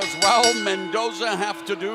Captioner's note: bell ringing